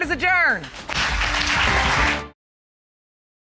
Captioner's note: applause